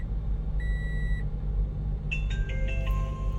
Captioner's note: beeping